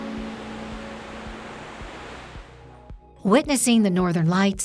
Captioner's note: water swishing